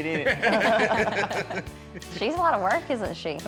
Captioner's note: laughter